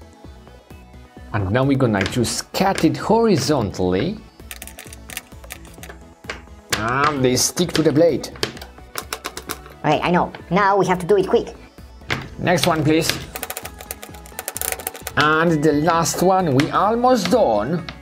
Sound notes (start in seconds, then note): none